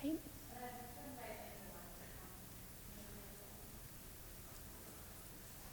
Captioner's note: woman speaks off microphone